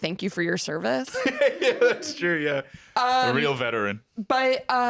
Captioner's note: laughs